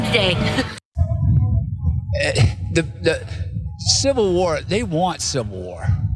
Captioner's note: laugh